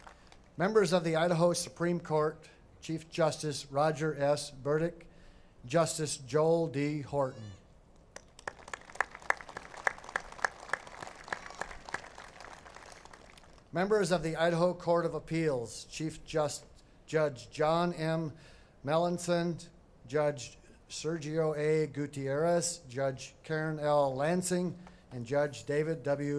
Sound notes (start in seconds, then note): 0.0 applause; 13.1 applause